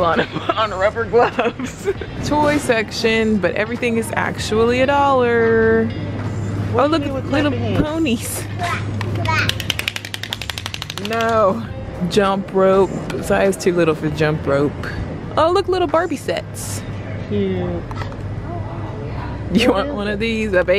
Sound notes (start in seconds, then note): 1.3 laughs; 9.0 toy hands clapping